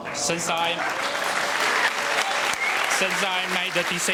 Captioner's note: audience applauding